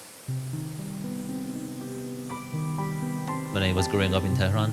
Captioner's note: spray gun hissing